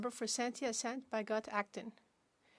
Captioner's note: speaking French